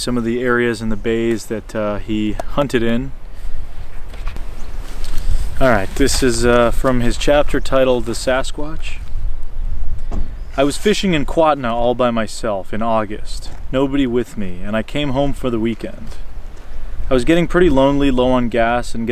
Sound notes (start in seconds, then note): none